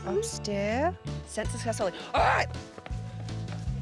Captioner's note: none